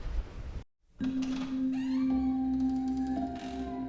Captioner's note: door creaks